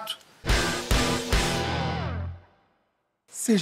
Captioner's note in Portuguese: som de destaque